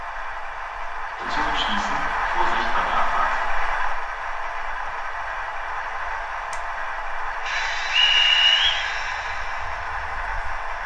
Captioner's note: conductor's whistle